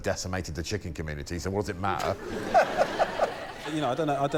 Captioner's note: laughter